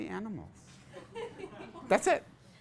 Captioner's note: class laughs